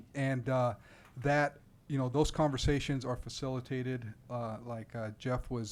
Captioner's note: none